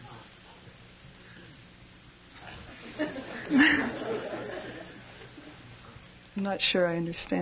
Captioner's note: laughter